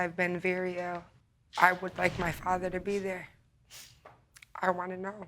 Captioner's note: sniffles